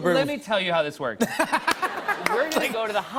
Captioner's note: laughter